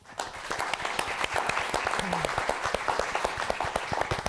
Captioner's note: applause